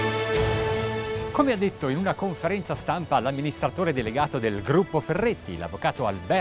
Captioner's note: speaking in foreign language